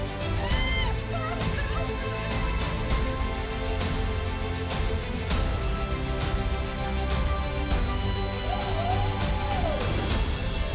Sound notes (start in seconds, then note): 0.0 suspenseful music; 0.1 skydiver shouting